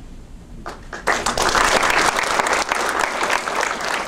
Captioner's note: audience applauds